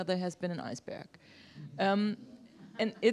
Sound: laugher

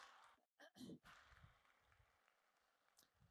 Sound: applause

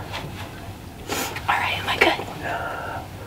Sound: whispering

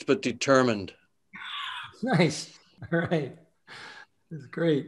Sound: laughing

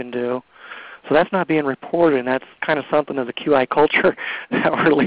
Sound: laughs

